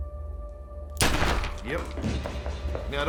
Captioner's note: gun blasts